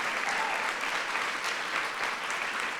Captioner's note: applause